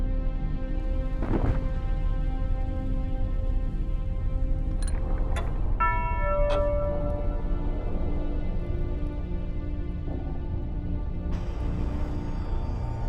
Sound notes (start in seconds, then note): 5.8 clock chimes